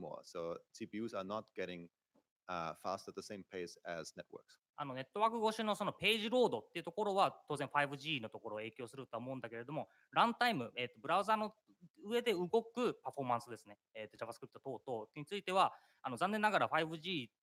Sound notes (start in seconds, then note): 10.1 speaking japanese